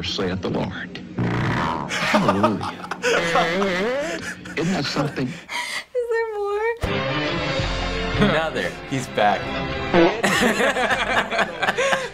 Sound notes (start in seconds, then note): 1.1 farting; 1.8 laughing; 4.0 farts; 5.5 in stitches; 6.9 rousing music; 9.9 preacher farts, Reactors laugh